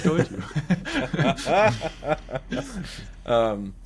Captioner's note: both laughing